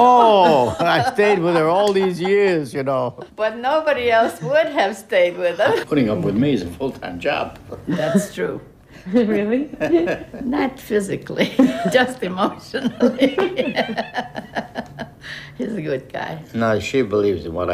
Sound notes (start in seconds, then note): 7.7 chuckles; 12.7 laughter